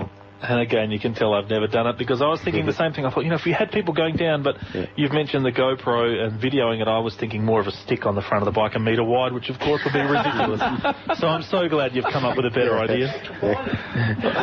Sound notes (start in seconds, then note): 9.6 group laugh